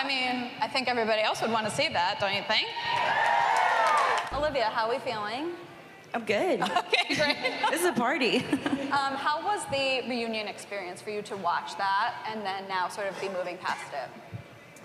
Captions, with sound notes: I mean, I think everybody else would wanna see that, don't you think? [cheering and applause] -Olivia, how we feeling? -I'm good. -[laughs] Okay, great. -This is a party. How was the reunion experience for you? To watch that and then now sort of be moving past it?